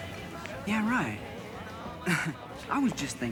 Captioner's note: chuckles